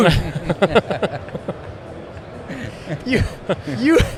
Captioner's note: all chuckling